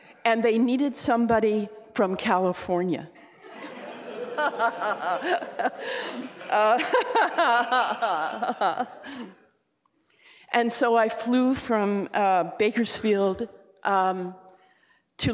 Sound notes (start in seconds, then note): 3.4 laughing